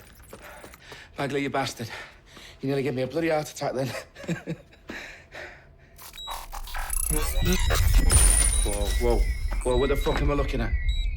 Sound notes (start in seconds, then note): 6.6 laughs